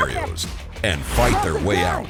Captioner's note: voiceover